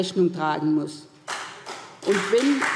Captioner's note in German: Beifall SPD, Freie Demokraten und DIE LINKE